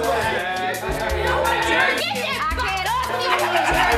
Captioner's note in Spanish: chicos riendo; chicas gritando; chicos se burlan